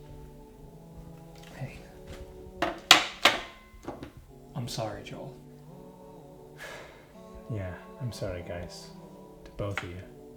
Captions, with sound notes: Hey, I'm sorry, Joel. [ SIGHS ] Yeah. I'm sorry, guys. To both of you.